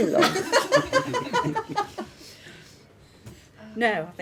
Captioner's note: laughing